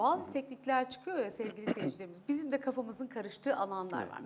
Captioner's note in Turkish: boğazını temizler